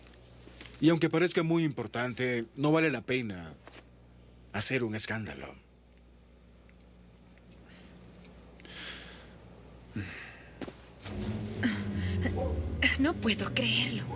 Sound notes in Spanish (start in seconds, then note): 9.9 Dave suspira